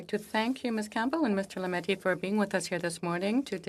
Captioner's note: speaking French